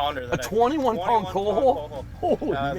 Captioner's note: voiceover